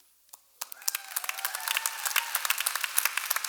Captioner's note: applause